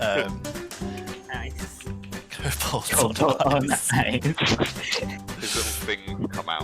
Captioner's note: laughing